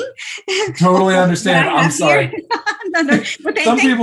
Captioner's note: laughter